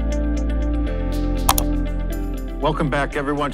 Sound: mouse clicks

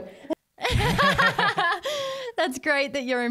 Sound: all laugh

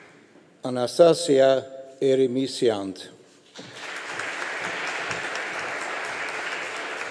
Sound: audience applauding

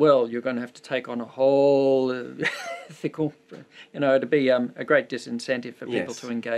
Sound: chuckles

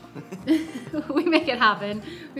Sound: both chuckle

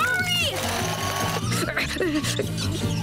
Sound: grunting

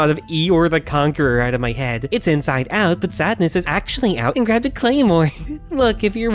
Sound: giggles

